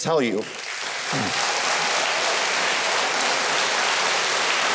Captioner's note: audience applauding